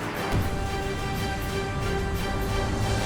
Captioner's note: boom